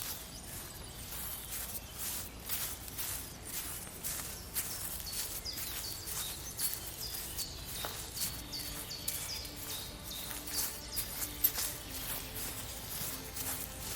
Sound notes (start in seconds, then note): 3.1 quiet footsteps on the lawn